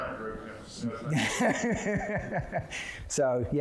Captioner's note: laughing